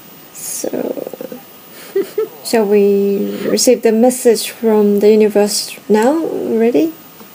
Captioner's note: laughing